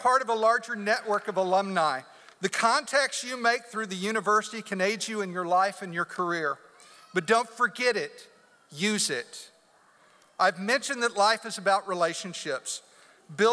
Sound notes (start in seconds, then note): none